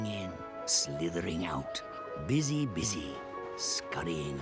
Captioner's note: none